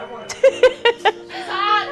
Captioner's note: woman laughs